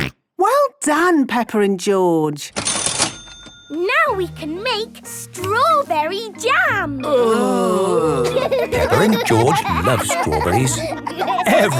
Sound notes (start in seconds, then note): 2.6 till rings; 7.0 groaning; 7.1 laughing